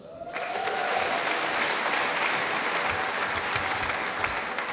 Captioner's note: applause